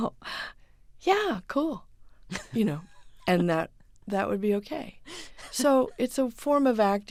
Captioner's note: soundbite of laughter